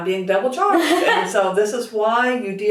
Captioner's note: laughing